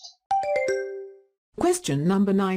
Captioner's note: question ding